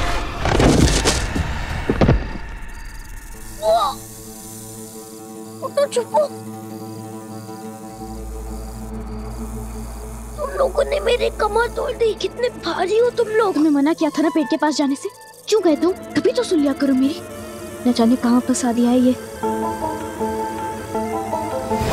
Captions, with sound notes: [thud] [yelps] Get up and hide. You broke my back. You are so heavy! I asked you not to go closer to the tree. Why did you go? Learn to listen to me. We are stuck here because of you.